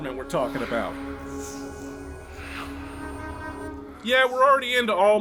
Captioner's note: Alma is whispering